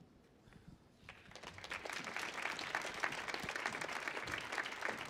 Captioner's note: audience applauds